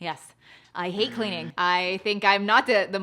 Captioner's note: buzzer buzzes